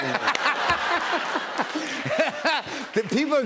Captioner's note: laughter